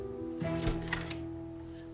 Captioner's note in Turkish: Kapı Açılıyor